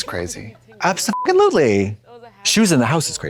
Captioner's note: beep